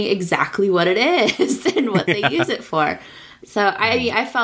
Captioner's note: laughs